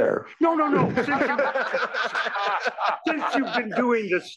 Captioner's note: laugh